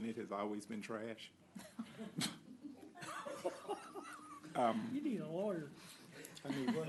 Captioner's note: laughter